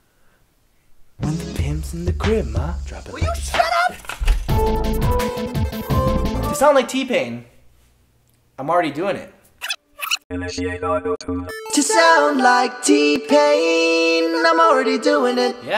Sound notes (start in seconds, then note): 9.6 tape rewinds; 10.2 robotic voice; 11.6 very autotuned